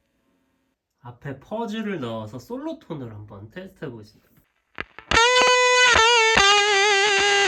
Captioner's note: Fuzz